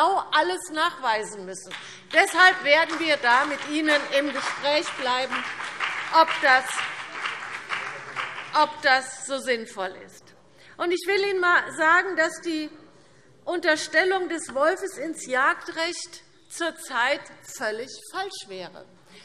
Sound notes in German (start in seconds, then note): 9.6 Beifall BÜNDNIS 90/DIE GRÜNEN und vereinzelt CDU